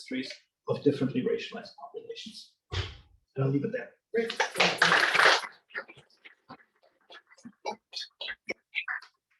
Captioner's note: applause